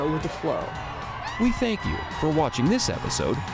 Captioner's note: crowd cheering